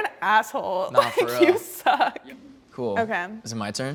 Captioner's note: laughs